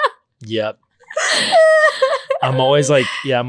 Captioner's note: laughing